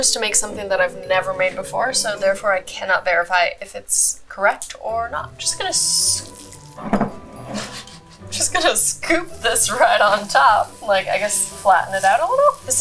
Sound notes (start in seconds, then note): 7.4 laughing